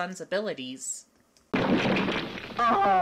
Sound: crash

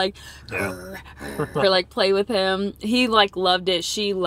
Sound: growls

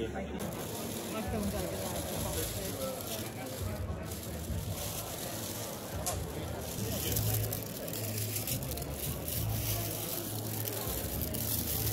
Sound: sounds of bags rustling

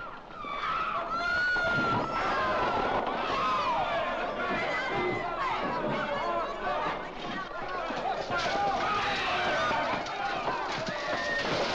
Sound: commotion & screaming

